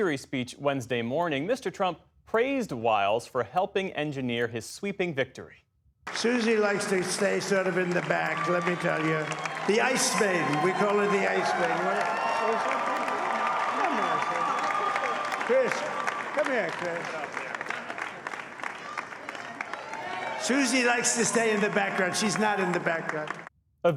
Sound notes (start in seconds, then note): 15.5 cheering